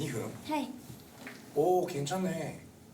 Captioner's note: speaking Japanese